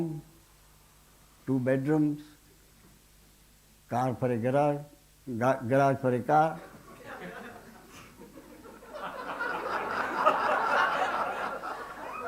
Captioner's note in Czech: smích